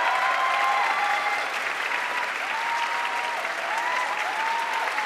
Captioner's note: audience cheering and applauding